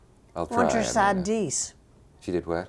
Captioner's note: Agnes speaks in foreign language